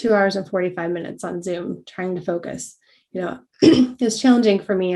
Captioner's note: cough